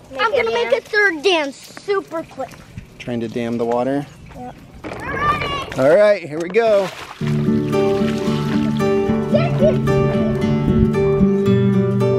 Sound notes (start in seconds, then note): 7.2 gentle upbeat music; 7.3 water sloshes